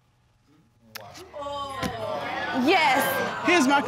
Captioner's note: audience exclaiming